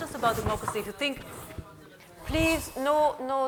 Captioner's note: people conversing